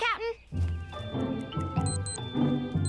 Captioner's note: over scheduler beeping